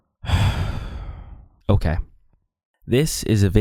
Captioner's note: deep breath